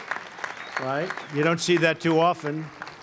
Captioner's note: applause